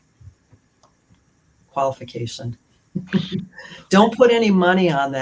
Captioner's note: laughter